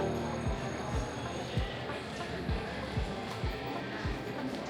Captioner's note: children chattering